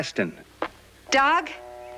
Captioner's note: footsteps approaching